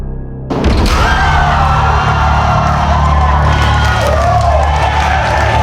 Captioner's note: spectators applauding